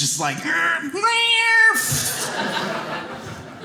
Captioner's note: making cat sounds